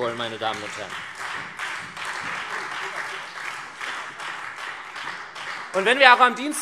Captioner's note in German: Beifall SPD, Freie Demokraten und DIE LINKE